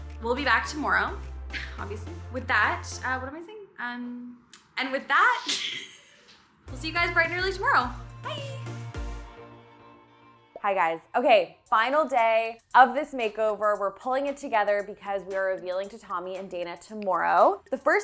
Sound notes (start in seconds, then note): 6.1 laughs; 8.7 upbeat music